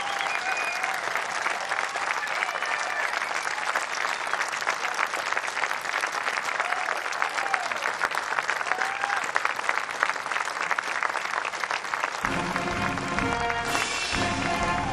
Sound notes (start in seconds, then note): 2.3 cheers and applause